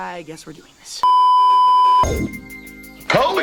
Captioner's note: beeeeeep